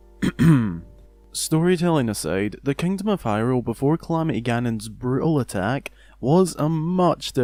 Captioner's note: coughs